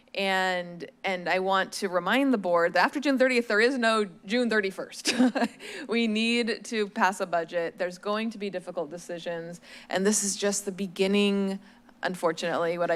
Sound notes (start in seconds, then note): 5.0 chuckles